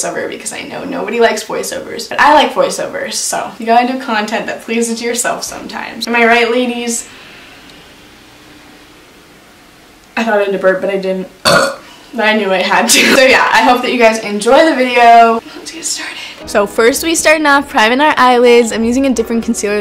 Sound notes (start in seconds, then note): 11.4 burps